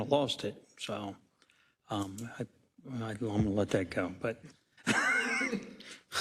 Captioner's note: laugh